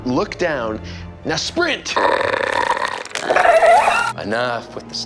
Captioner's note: alien roaring